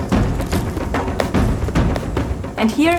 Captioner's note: howler monkey